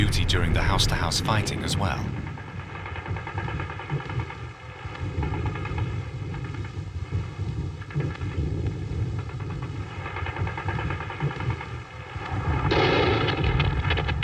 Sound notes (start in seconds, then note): 2.8 guns firing